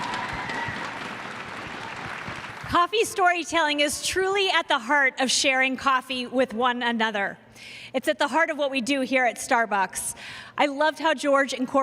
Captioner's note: cheers and applause